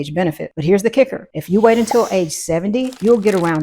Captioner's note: paper shuffling; bubble popping